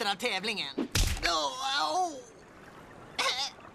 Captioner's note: grunts